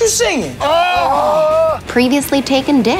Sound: shouting

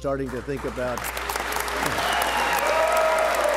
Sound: applause

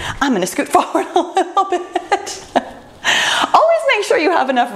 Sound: laughs

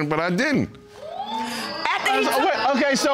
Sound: audience exclaiming

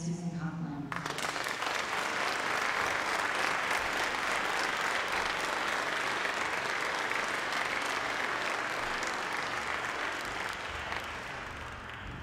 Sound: applause

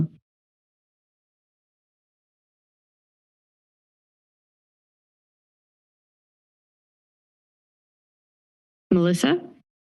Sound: silence

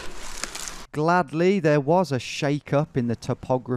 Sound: voiceover

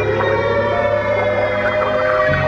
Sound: air raid sirens blaring

